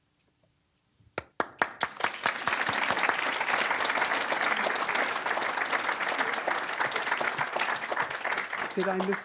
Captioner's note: applause